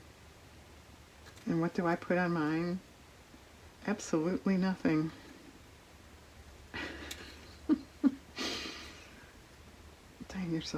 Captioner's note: laughs